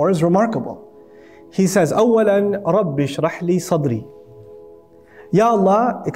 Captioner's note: Arabic